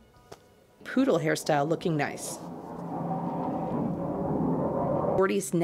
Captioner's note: jet sounds